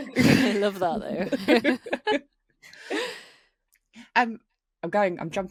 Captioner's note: all laughing